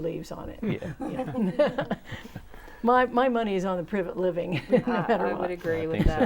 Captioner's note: laughing